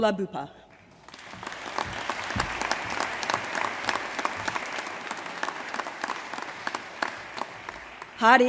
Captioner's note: applause